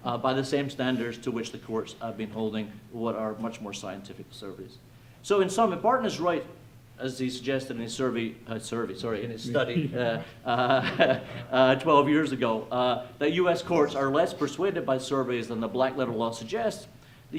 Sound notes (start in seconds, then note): 9.4 chuckles; 9.4 chuckling